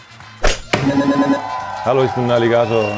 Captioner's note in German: Jubel